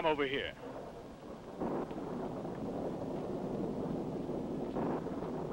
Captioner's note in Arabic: هدير الرعد